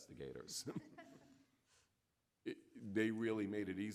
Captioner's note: audience laughing